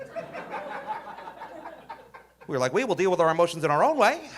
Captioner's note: audience laughing